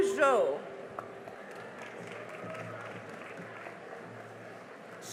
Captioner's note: cheering and applause